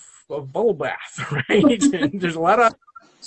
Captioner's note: both laugh